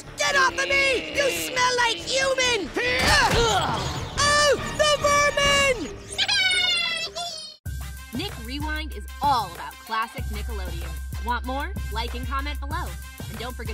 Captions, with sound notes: Get off of me, you smell like human! [groaning] Oh, the vermin! [laughing]